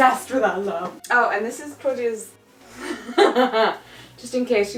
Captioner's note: laughs